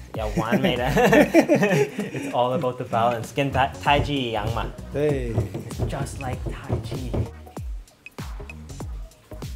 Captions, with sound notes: (laughs) It's all about the balance. It's just like taiqi.